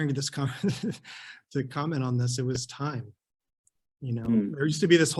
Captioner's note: chuckles